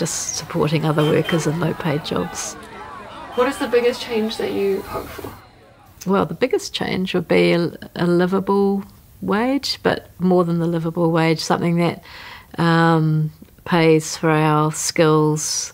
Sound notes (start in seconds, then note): 2.7 honking and protesting